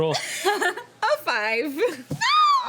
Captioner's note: laughing